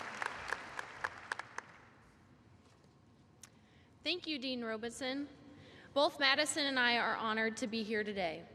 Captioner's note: applause